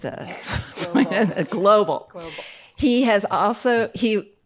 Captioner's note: chuckles